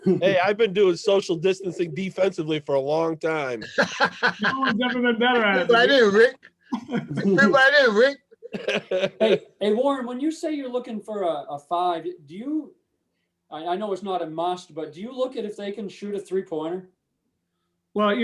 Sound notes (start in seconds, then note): 3.6 laughing; 8.4 chuckling